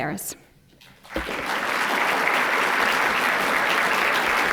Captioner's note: applause